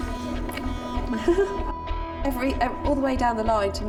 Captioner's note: laughing